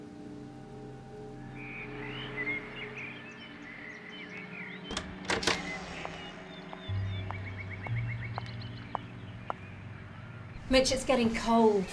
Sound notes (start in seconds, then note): 2.0 birds chirping